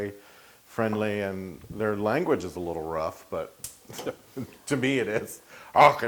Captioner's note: laugh